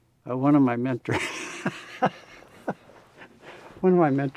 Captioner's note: laughs